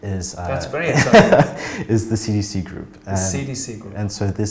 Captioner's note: laughs